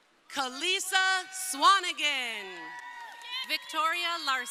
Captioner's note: crowd cheering